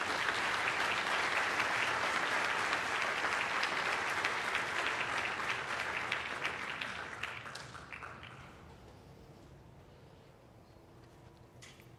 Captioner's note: applause